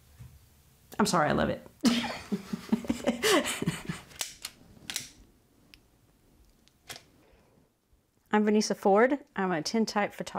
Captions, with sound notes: I'M SORRY, I LOVE IT. [LAUGHING] I'M VANESSA FORD. I'M A TINTYPE PHOTOGRAPHER.